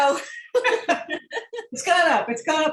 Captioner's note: laughter